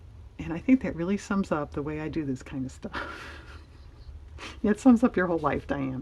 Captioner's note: laughs